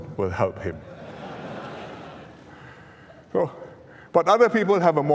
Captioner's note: laughter